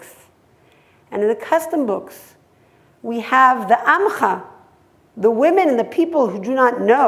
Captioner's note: hebrew